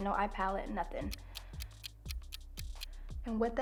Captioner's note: clock ticks